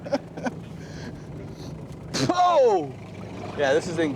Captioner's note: laughter